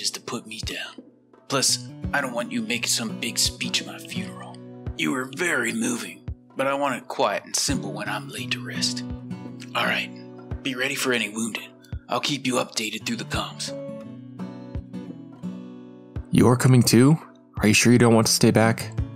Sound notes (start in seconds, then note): 4.5 speaking sarcastically